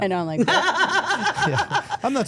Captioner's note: Steph laughing